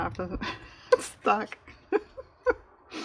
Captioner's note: laughs